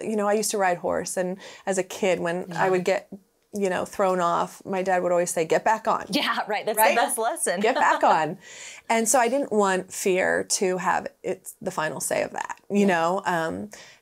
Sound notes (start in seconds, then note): 7.5 laughs